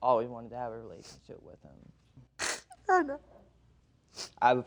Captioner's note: sniffles